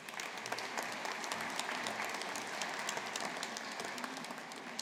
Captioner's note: audience applauding